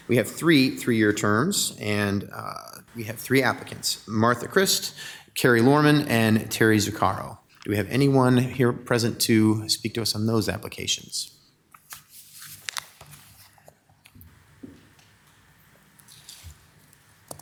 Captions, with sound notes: We have three three-year terms and we have three applicants. Martha Christ, Carrie Loman, and Teri Zuccaro. Do we have anyone here present to speak to us on those applications? (pages shuffling)